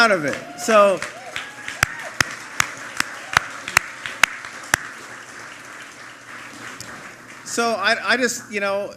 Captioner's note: applause